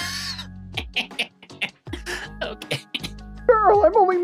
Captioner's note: laughing